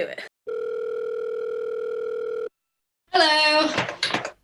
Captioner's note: phone rings